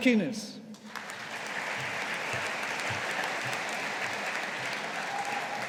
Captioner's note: audience applauding